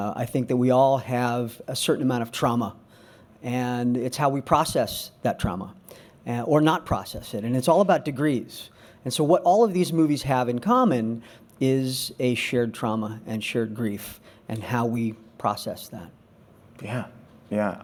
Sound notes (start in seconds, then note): none